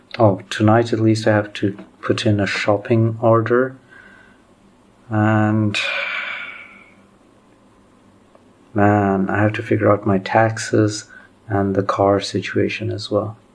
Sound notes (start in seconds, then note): 5.7 sigh